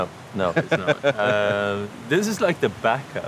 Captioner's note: laughs